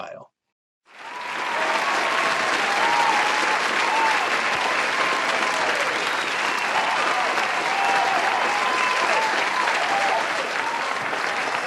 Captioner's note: applause